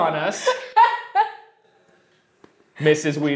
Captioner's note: laughter